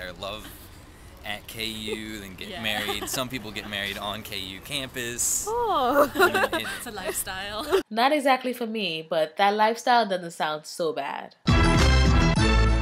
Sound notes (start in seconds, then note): 5.4 laughs